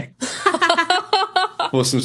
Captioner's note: laughs